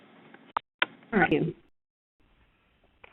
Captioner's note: voiceover